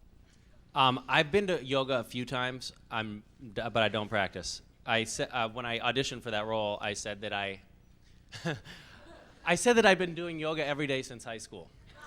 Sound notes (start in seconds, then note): 8.4 laughs; 11.9 laughs